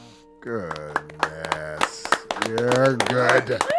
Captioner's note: chord strums; group claps